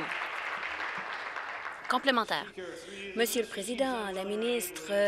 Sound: applause

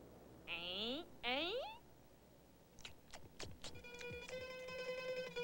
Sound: making mildly disapproving sounds

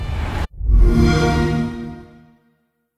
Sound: xbox sound

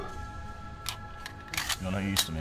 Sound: sound of gun being cocked

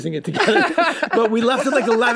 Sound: group laughs

